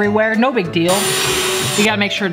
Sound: drilling

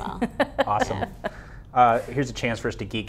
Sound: laughs

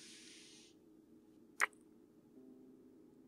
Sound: kiss

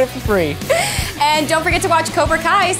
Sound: laughs

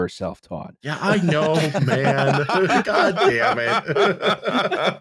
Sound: laughter

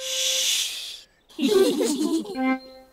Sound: all giggle quietly

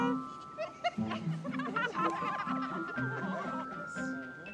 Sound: parents giggling; inspirational music

